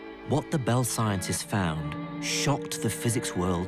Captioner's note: voiceover